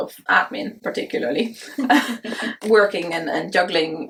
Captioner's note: both chuckle